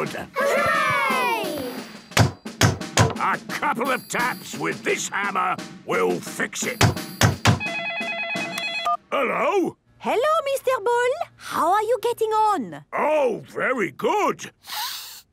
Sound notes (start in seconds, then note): 6.7 phone ringing; 14.6 sniffs